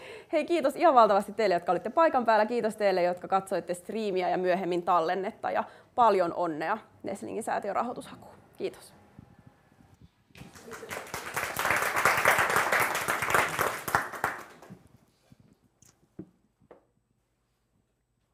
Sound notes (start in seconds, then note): 10.4 applause